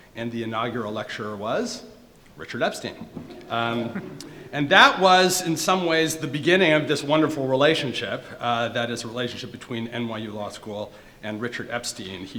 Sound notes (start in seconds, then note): 3.0 audience members laughing